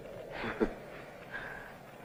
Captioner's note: laughs